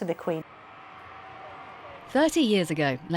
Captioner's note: crowd cheering